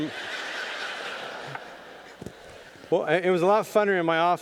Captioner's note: audience laughing